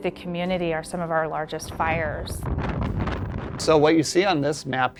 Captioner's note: sound of wildfire blazing